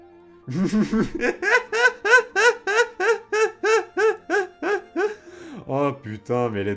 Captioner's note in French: Rires